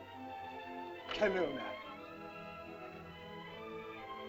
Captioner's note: soft music; Ohtao speaks in caveman language; soft music